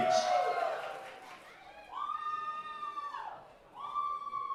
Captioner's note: audience cheering